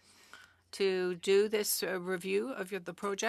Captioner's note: speaking French